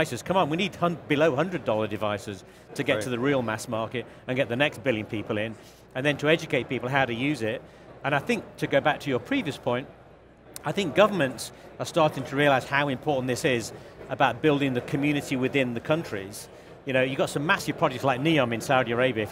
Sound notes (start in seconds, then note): none